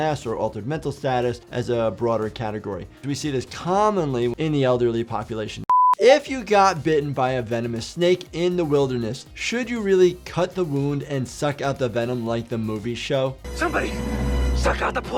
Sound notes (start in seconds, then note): 5.7 beeps; 13.3 suspenseful music